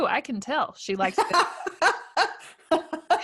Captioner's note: laughing